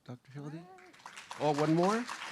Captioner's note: applause